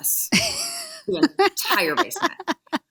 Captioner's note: laughing